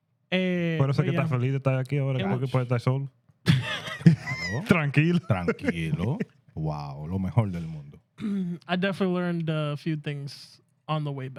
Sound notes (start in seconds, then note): 0.2 speaking Spanish; 3.4 laughter; 4.0 speaking Spanish; 7.1 speaking Spanish